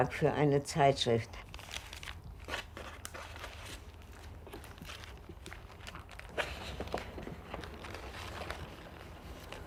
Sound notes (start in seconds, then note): 5.0 paper rustling